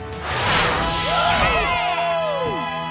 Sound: all cheering

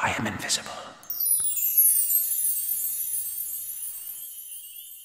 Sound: chimes sound

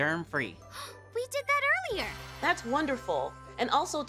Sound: gasps

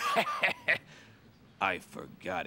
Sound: chortles

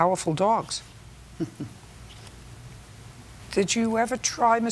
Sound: laughs

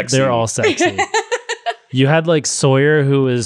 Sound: laughs

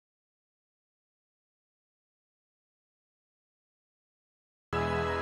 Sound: silence

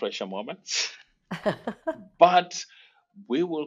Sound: both laugh

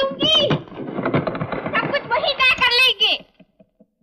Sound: diving board rattles

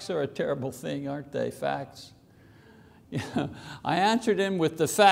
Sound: chuckles

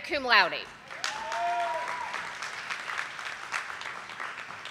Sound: audience applauding

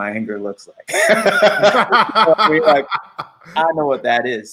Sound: laughing

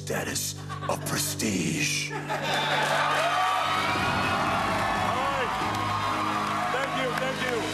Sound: cheers and applause

